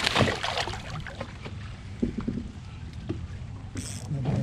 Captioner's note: fish splashing